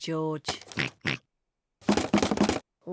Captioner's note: oinks; rattles